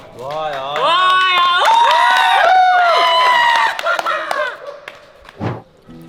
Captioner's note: cheering and clapping